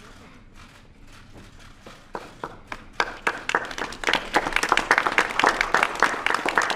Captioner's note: applause